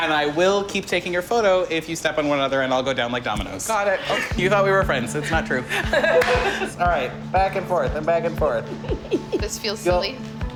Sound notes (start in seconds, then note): 5.6 laughter; 8.5 giggling